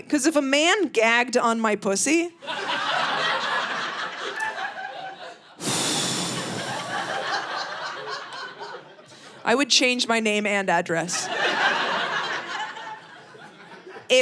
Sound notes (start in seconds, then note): 2.4 audience laughing; 5.7 sighs; 11.2 audience laughing